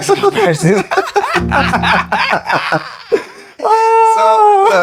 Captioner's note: laughter